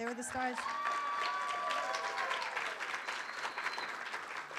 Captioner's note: room applauds